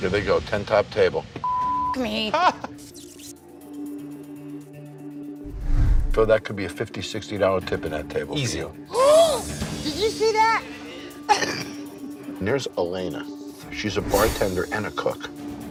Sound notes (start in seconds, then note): 1.4 beep; 2.8 camera hisses; 9.1 gasps; 11.2 laughs